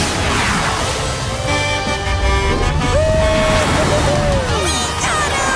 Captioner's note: honking